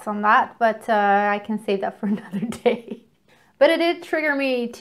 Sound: chuckles

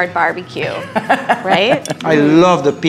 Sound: laughs

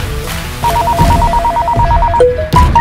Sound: phone Ringing

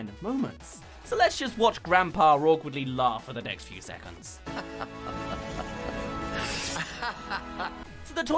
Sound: laughing

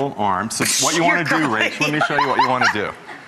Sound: giggles

